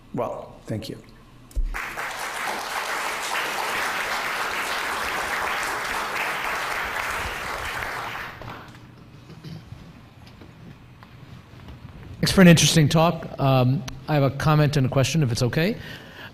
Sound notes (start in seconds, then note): 1.6 audience applause